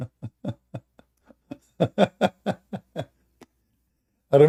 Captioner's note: Ketawa